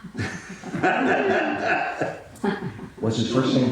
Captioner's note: all laughing